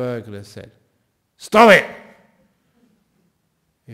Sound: yelling

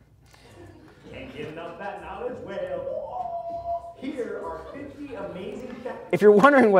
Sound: computer talking

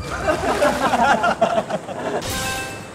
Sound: giggles

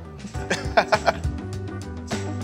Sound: groovy music; laughs

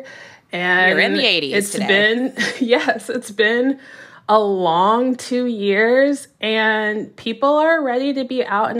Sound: laughter

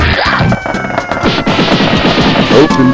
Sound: door spam

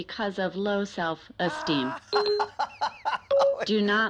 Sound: laughs

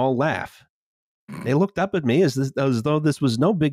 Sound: snorts

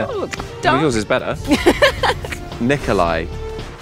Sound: Jessie laughs

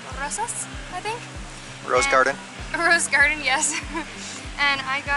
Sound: laughter

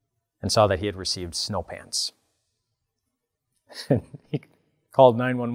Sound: laughs

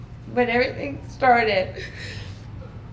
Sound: crying

